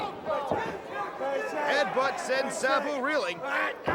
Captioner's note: crowd chatter